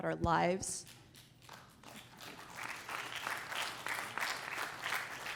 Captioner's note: applause